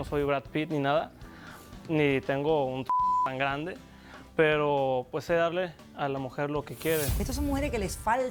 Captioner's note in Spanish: Bip